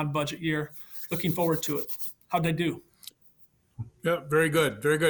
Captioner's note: hands rubbing